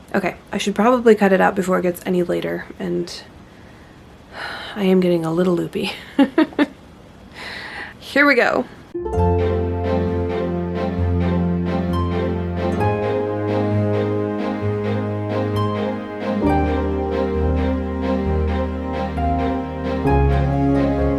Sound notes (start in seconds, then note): 4.3 sigh; 6.4 laughs; 9.0 adventurous music